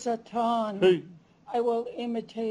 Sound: non-english speech

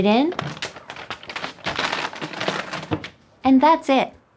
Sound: paper bag rustling

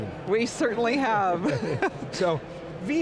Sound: laughs

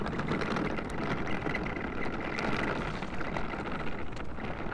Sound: backpack wheels rolling

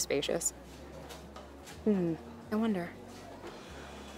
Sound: under her breath

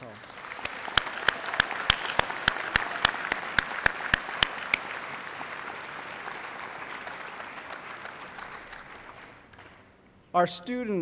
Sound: applause

